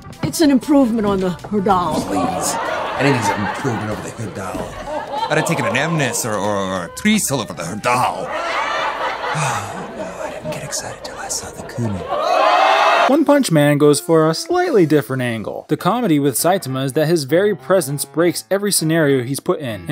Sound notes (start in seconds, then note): 2.0 stock laughter; 9.3 Wade sighs; 12.2 stock laughter